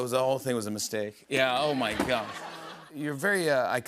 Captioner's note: laughter